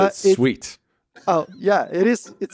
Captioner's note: laughs